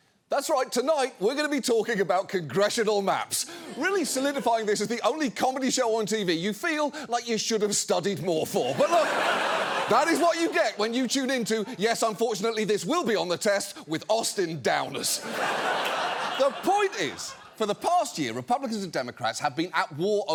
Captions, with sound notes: That's right, tonight, we're going to be talking about congressional maps. Really solidifying this as the only comedy show on TV you feel like you should have studied more for. But look, that is what you get when you tune into Yes, Unfortunately This Will Be On The Test with Austin Downers. (STUDIO AUDIENCE LAUGHING) The point is, for the past year, Republicans and Democrats have been at war